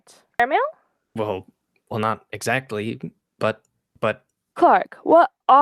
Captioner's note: stammers